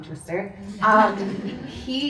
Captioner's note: audience laughs